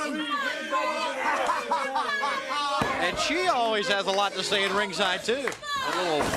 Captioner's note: crowd chatter